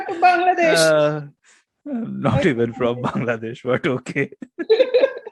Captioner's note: laugh